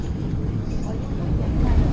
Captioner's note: speaking foreign language